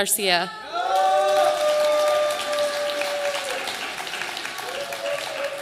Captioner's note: audience applauding